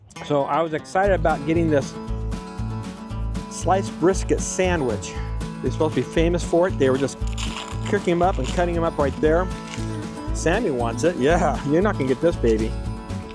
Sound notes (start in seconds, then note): 6.9 paper RIPS right by microphone; 7.0 rips